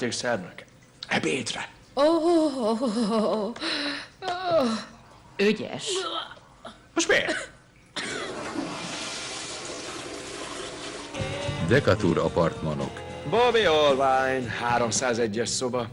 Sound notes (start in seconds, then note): 7.8 toilet flushes